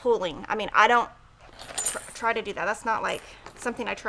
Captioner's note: keyring clinks